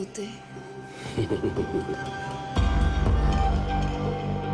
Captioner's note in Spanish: Risas